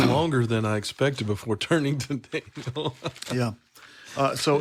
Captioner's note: laughs